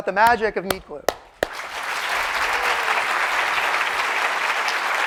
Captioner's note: applause